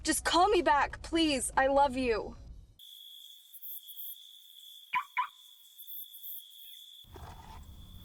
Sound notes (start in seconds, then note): 2.7 crickets chirp; 4.7 car alarm chirps